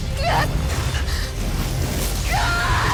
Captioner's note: grunts; energy whoosh; screams